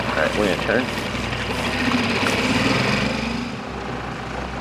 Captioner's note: engine rumbling